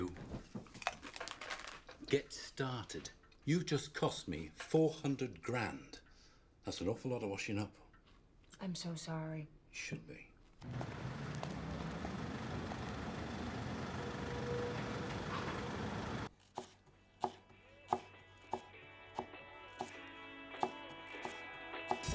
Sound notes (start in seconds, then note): 10.6 engine rumbling; 16.8 knife thudding; 16.8 upbeat music